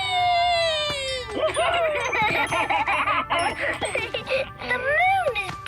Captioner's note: laughing